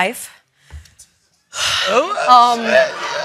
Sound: exhales

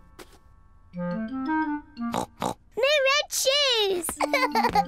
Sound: oinks; laughs

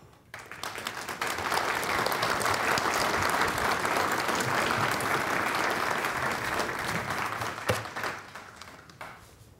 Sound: applause

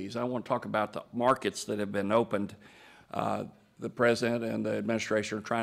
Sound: none

